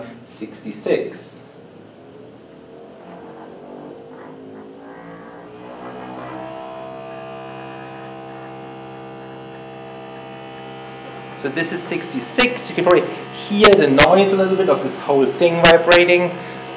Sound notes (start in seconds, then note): 4.6 high pitched humming